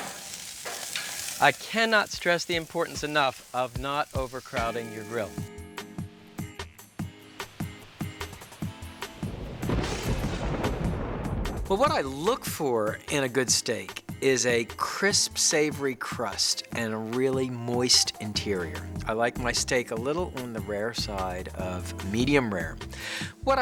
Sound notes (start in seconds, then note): 6.1 light music; 9.1 thunder booming